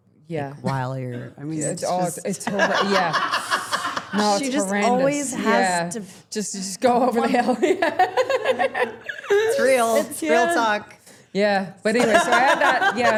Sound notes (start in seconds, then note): 2.5 everyone laughing; 7.9 laughing